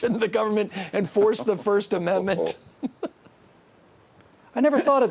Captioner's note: laughs